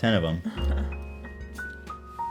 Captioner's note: laughing